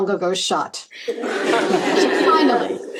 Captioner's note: laughter